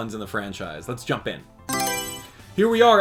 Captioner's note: Mario Selection Sound